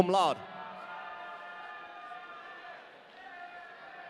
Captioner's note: audience cheering